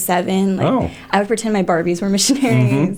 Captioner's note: laughter